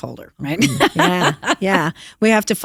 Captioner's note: laughter